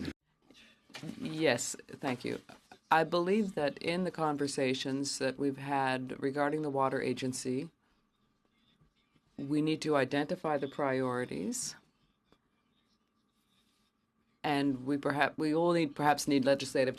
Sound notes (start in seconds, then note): 3.8 speaking French